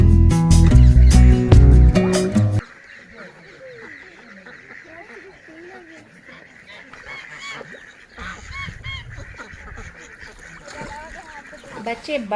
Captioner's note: ducks quaking